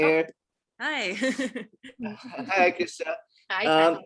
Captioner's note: laughs